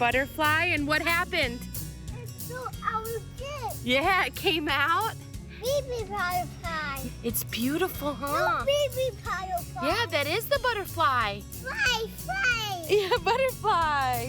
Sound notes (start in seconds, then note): 2.1 toddler babbling; 5.6 toddler babbling; 8.6 toddler babbling; 14.0 upbeat music